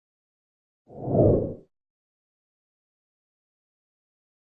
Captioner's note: whooshing sound